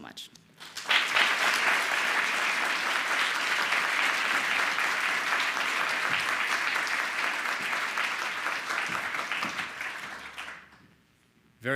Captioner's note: applause